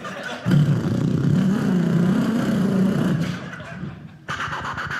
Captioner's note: beat boxing; engine sounds; beat boxing